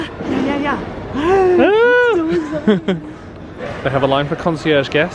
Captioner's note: both gasping